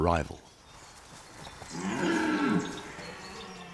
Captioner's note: deer roars